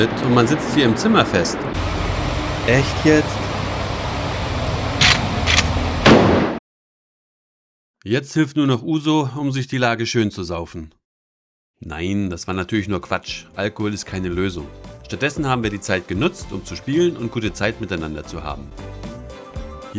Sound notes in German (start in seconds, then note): 6.0 Schuss